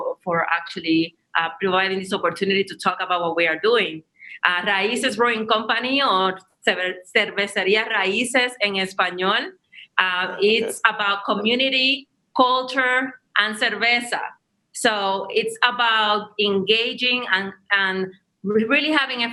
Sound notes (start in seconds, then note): 6.1 speaks foreign language